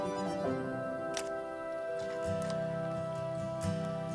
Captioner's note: camera shutter clicks